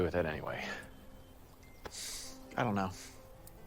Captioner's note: exhales